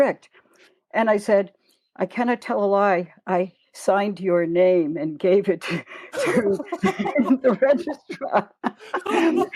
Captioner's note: laughter